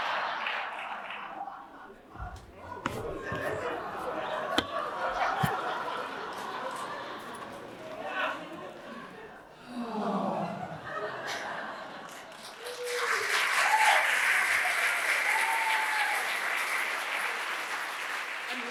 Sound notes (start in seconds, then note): 9.5 all sigh dreamily; 12.0 applause